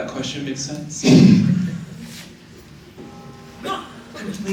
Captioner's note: chuckles